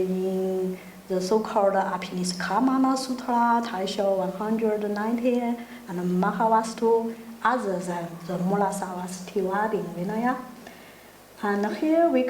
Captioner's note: speaking in foreign language